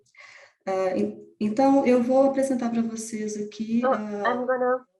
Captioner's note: speaking in foreign language